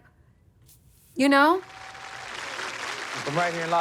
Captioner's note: applause